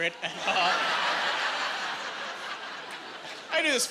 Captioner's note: laughing